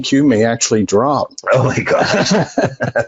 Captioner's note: laughing